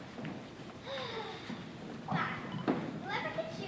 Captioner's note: Penelope sighs